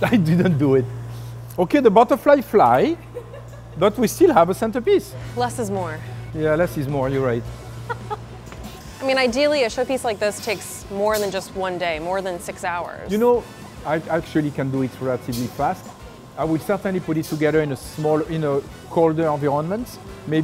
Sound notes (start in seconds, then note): 7.7 laughs